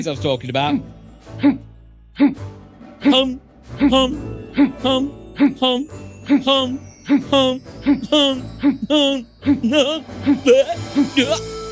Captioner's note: weird Noises to leave you confused and afraid